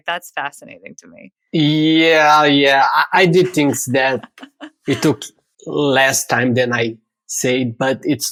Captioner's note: <Laugh>